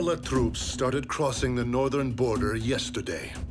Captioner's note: none